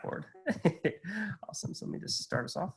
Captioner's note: laughs